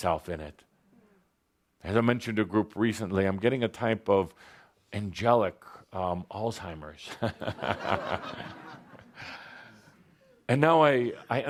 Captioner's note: laughter